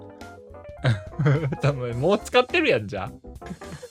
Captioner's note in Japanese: 笑い